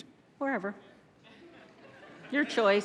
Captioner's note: audience laughs